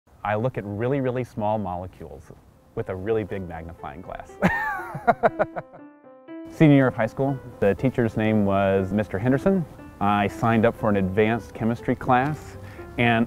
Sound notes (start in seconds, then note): 4.4 laughing